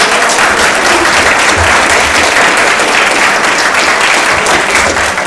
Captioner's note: audience applauding